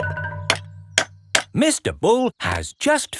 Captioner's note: clanking